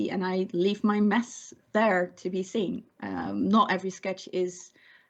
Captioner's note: none